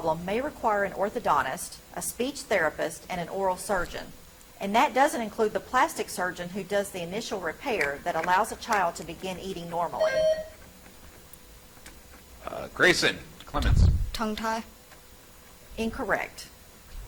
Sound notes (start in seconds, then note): 9.9 buzzer chimes